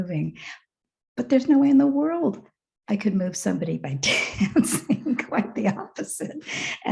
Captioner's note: chuckles